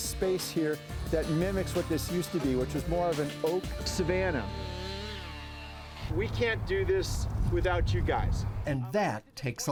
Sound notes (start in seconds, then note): 3.8 chainsaw whirs